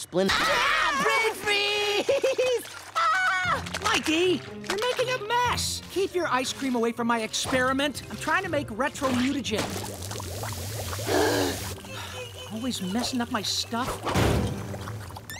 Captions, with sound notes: [screaming] Brain freeze! [screaming] Mikey. You're making a mess. Keep your ice cream away from my experiment. I'm trying to make Retromutagen. [gasping] Always messing up my stuff.